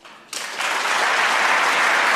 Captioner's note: applause